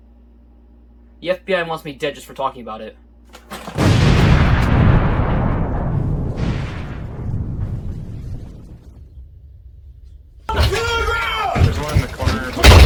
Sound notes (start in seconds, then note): 3.7 explosion; 10.3 police yelling